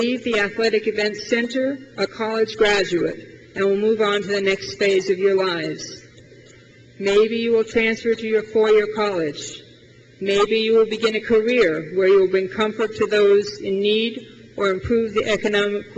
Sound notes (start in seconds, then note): none